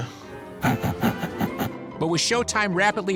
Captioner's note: snorting, laughing